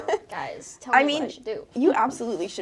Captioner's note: laughing